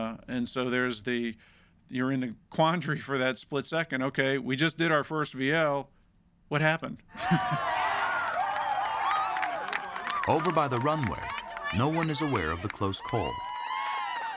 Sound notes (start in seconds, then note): 7.1 cheering